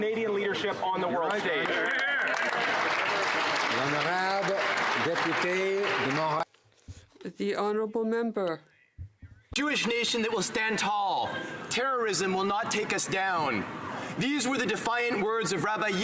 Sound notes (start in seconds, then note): 5.6 some Applause